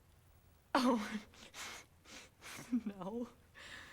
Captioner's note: giggles nervously